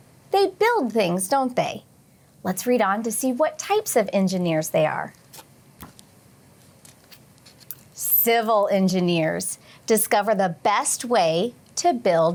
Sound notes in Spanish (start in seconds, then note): 5.8 ruido sordo del libro